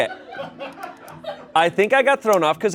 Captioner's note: everyone laughs